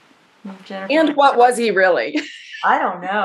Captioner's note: laughs